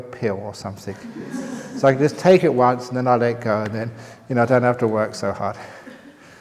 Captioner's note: laughter